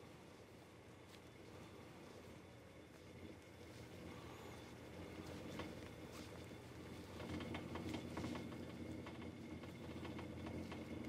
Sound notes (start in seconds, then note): 6.6 creaking and rattling